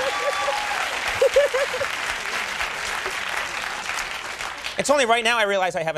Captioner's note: Nancy laughs